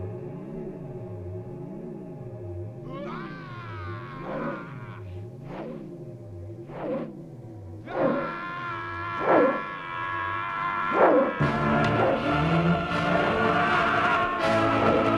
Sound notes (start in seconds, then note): 3.4 Gordoza shouting; 11.6 intense operatic music